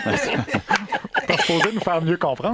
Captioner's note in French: rires